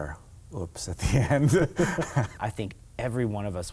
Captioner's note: laughing